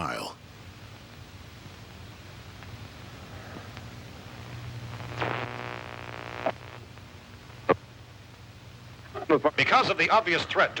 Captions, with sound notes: [radio static] [radio broadcast] Because of the obvious threat